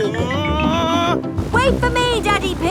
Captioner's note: screaming